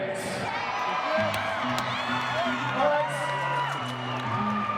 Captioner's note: crowd cheering